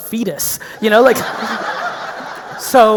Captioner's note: audience laughing